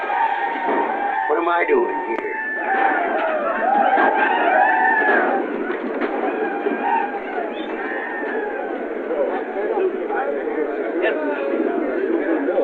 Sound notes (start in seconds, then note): 9.0 chatter